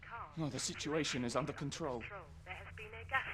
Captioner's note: intercom